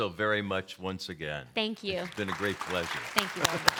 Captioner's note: applause